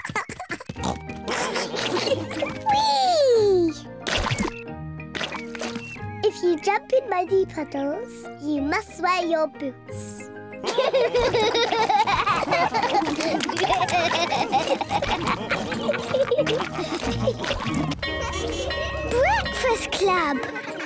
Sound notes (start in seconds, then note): 1.5 all laughing; 10.0 all laughing